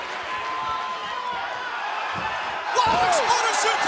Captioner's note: crowd chatter